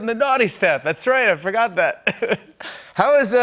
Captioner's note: laughs